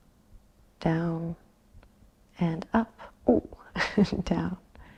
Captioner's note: chuckles